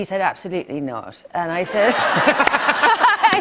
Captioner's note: laughter